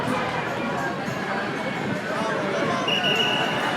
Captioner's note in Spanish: Silbatos